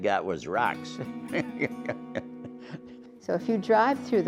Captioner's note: laughing